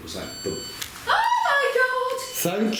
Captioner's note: device beeps